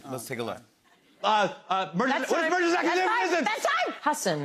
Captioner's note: shouting